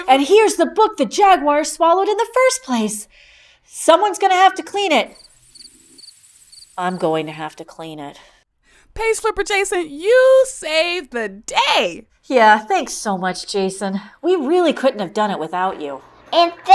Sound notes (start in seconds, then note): 5.1 crickets